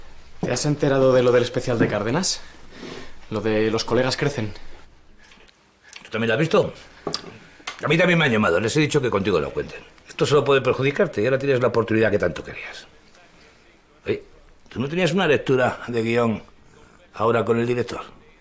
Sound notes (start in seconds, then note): none